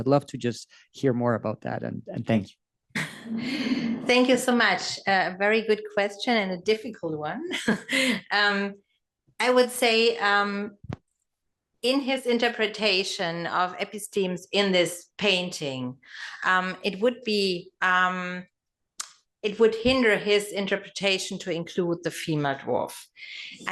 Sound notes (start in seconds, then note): 9.5 laugh